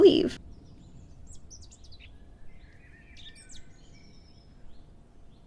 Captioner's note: birds chirping